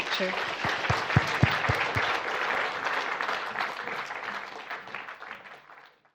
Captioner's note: clapping